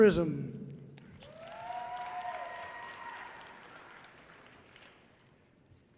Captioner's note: audience cheering loudly